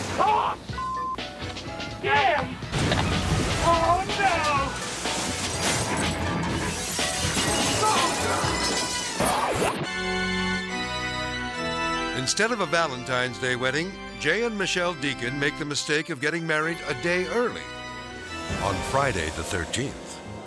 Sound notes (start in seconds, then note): 2.7 car crashing; 5.9 glass shattering